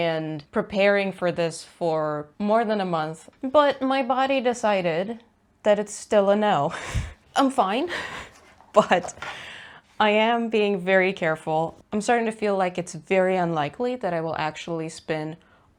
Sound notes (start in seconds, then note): 6.6 laughs